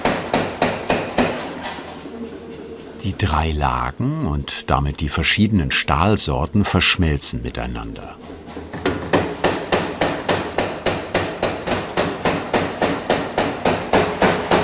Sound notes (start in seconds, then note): 9.1 dull knocking